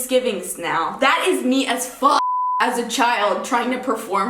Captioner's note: beep